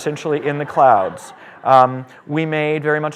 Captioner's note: laughter